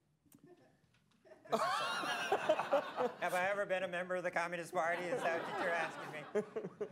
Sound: laughter

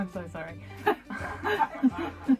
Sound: laughter

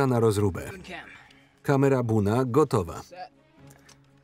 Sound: none

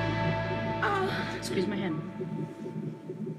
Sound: groans

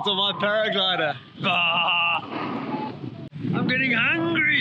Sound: comically laughs

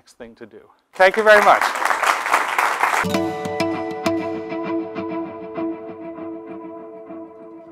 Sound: applause

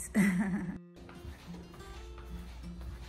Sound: laughs

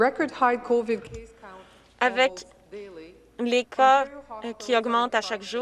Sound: speaking French

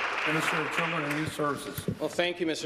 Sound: applause

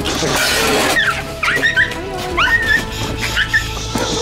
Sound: squeals

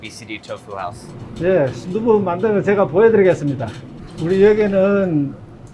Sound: speaking in Korean

